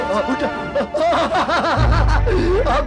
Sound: laughs

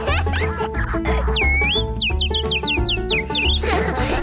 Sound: laughter; chirping

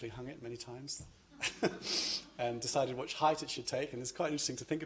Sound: chuckles

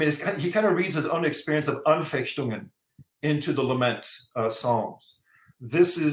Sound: german

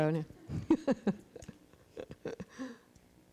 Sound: laughs

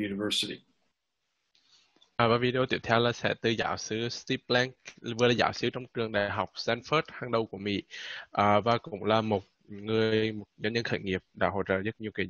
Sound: speaking Vietnamese

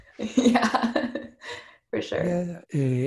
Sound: giggles

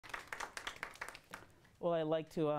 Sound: applause

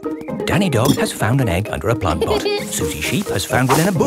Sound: laughs

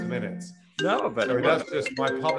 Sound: phone ringing

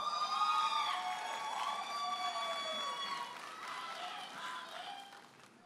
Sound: audience applauding and cheering

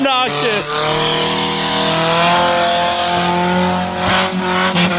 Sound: laughs; engine revving

